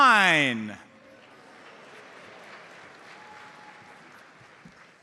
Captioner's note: audience applauds